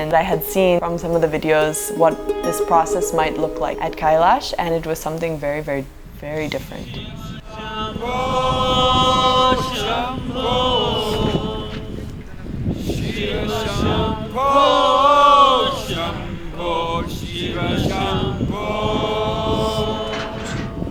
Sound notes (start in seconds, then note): 12.7 participants chant along